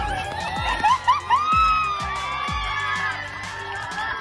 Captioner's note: crowd cheering